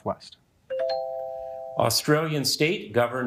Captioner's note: bell ringing